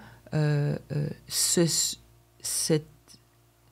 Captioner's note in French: hésitation